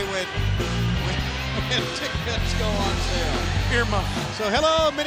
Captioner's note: laughs